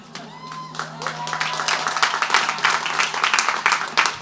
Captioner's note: crowd applauds